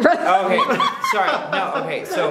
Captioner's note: laughing